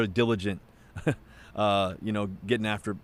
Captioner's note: laughs